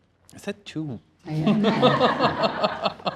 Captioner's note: laughter